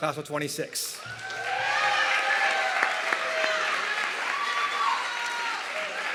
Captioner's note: audience clapping and cheering